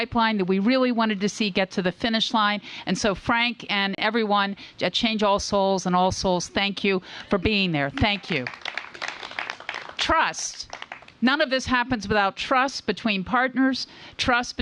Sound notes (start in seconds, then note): 7.9 applause